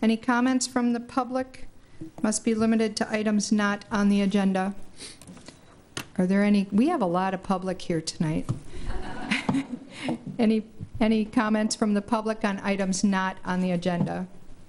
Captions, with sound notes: Any comments from the public must be limited to items not on the agenda. Are there any? we have a lot of public here tonight. (attendees laughing) Any comments from the public on items not on the agenda?